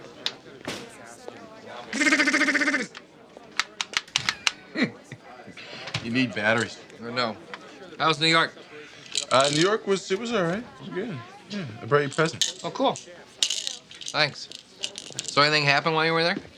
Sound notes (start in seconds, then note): 1.8 imitates machine gun; 4.1 chuckles